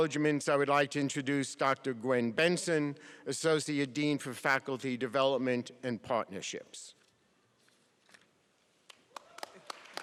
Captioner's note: applause